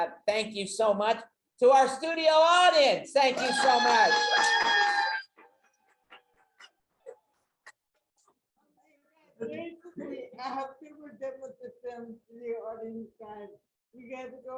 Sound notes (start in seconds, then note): 3.3 audience clapping and cheering